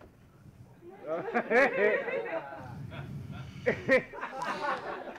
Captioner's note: audience laughing